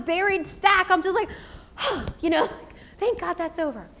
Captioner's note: exhales